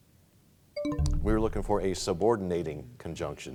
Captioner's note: bell chimes, time expires